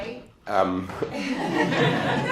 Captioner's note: laughter